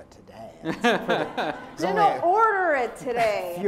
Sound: laughter

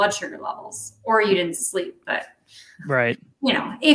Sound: chuckles

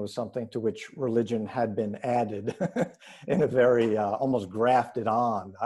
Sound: laughs

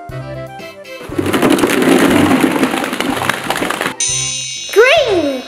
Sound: balls tumbling; chiming

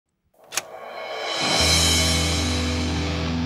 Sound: click

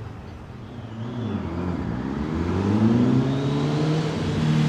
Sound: engine revving

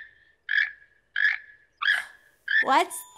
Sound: chattering

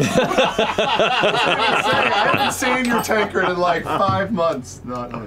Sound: laughter

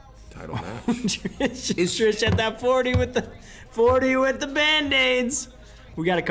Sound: laugh

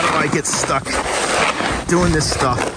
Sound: shovel scraping in snow and concrete

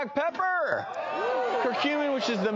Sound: audience gasps

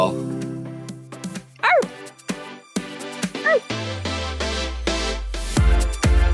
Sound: barks; upbeat electronic music

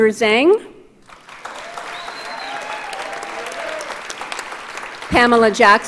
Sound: audience applauds

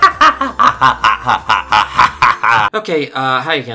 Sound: laughing

